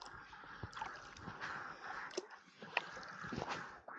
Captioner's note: paddling